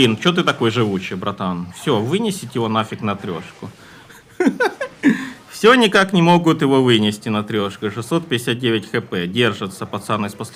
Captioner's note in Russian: смех